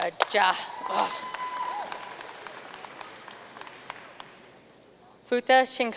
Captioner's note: audience cheering and applauding